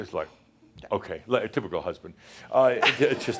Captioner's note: some chuckles